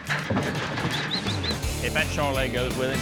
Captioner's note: whistling